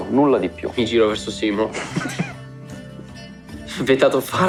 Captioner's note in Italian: Risate